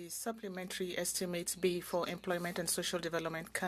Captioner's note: speaking French